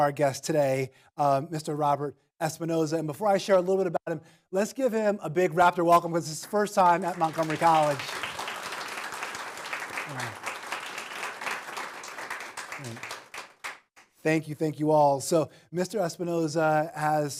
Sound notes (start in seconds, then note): 6.0 applause